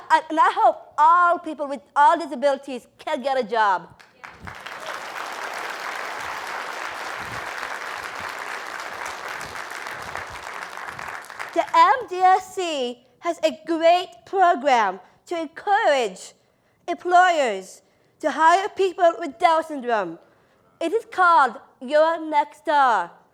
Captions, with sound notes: And I hope all people with all disabilities can get a job. [APPLAUSE] >> The MDSC has a great program to encourage employers to hire people with Down Syndrome. It is called Your Next Star.